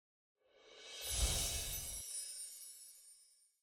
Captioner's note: light fairy dust sound